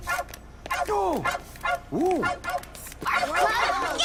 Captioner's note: barking; sumdac exclaiming; kids chattering